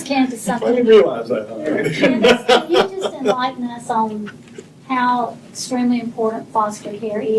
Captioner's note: laughter